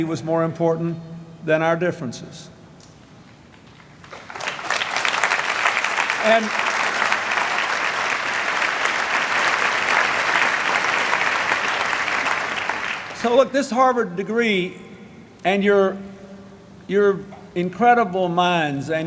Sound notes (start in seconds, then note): 4.7 applause